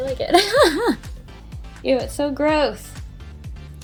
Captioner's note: laughs